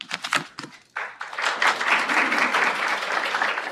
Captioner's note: applause